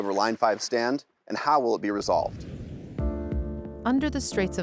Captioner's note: screen whooshes